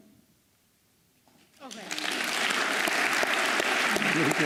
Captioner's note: applause